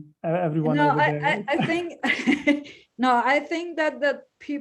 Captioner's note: laughs